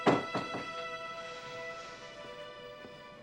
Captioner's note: door thuds